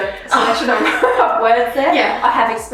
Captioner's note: both laughs